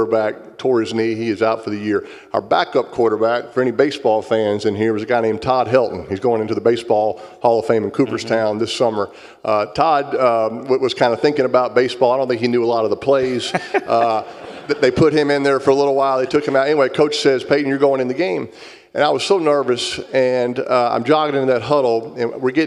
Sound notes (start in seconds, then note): 13.2 laugh